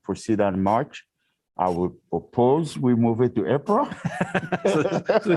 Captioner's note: laughter